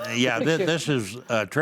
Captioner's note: laughs